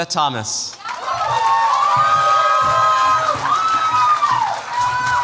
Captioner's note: cheers, applause